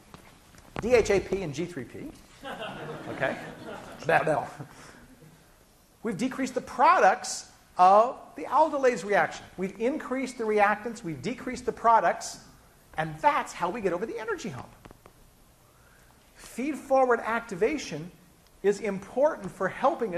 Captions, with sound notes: and DHAP and G3P. [laughing] We've decreased the products of the aldolase reaction. We've increased the reactants, we've decreased the products, and that's how we get over the energy hump! Feed forward activation is important for helping